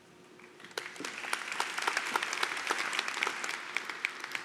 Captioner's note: applause